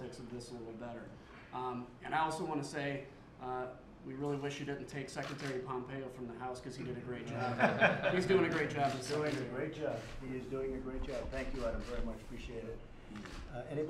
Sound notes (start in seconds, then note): 6.8 laughter